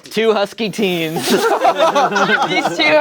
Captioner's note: everyone laughing